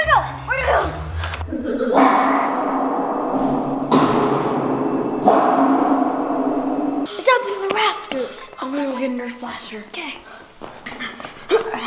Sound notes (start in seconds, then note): 2.0 banging noises; 2.0 weird alien noises; 10.2 grunts and pants